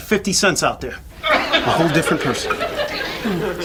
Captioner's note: audience laughs